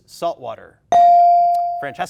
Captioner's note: bell dings